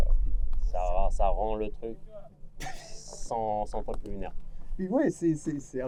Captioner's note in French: rire